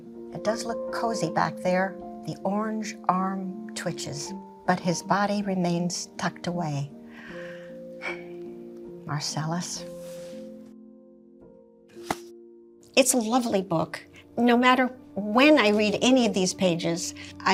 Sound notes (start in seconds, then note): 8.0 sighing; 12.0 book slamming